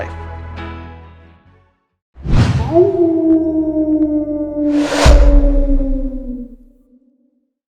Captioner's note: coyote Howl